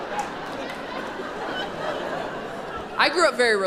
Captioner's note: audience laughing